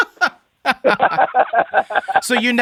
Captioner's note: laughs